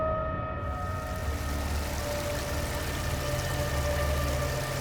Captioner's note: water rushing